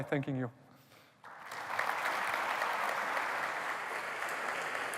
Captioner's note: applause